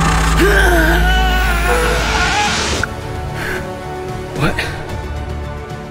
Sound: screams in pain; magic sound stops

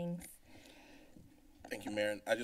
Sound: silence

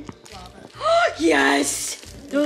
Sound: gasps

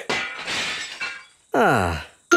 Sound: glass shatters

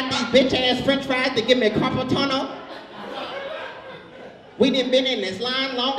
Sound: audience laughs

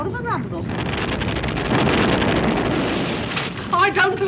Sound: rumbling

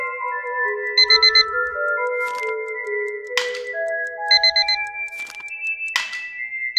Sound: dice rattling; clock ticking; alarm beeping

